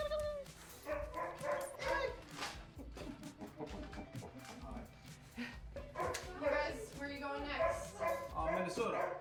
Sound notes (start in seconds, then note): 2.4 dogs barking